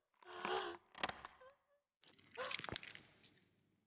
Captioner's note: soft crackling